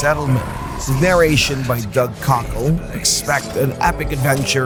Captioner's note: the voice of Geralt from The Witcher